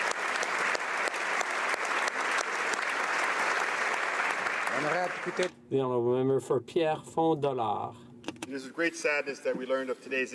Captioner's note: applause